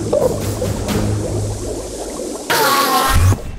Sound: bubbling; enderman screech

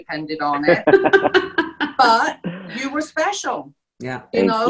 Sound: people laughing

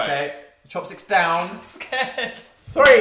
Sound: lauging

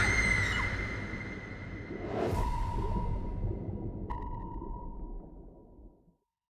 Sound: scream

